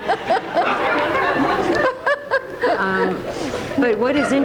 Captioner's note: Alice and audience laugh